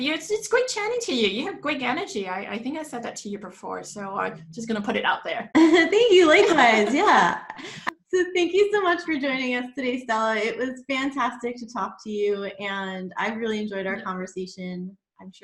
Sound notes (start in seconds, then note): 5.5 laughs